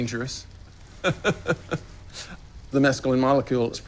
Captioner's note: laughs